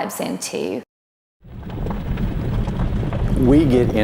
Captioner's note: sound of wheels on dirt